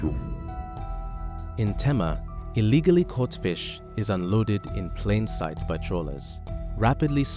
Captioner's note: voiceover